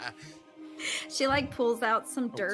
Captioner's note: Briv laughing